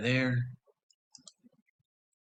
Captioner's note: mouse click